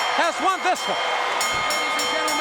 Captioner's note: bell ringing